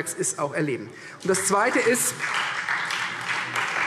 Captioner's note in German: Beifall Freie Demokraten